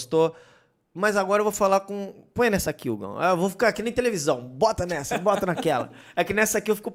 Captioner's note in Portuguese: risos